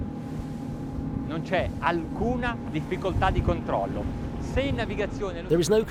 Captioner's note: speaking foreign language